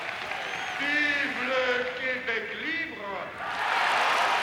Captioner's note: speaks in French; crowd cheering